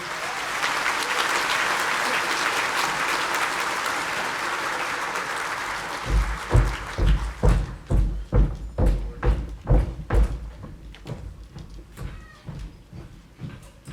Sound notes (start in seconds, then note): 0.0 audience applauding; 6.0 foot step stumping